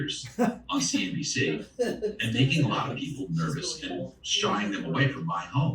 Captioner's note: laughter